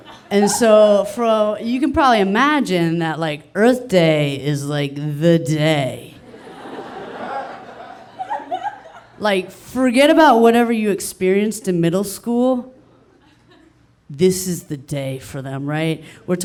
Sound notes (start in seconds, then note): 6.2 audience laughing